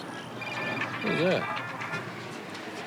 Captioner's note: cell phone rings